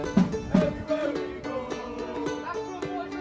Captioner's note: chanting